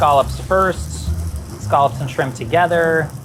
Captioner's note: scallops sizzling